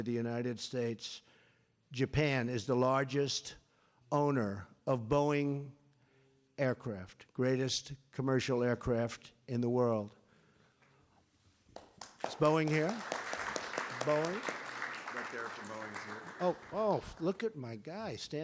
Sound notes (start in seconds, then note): 10.1 applause